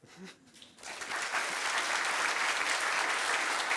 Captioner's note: applause